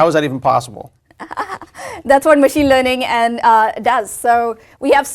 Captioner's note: laugh